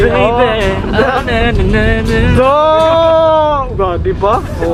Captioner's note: humming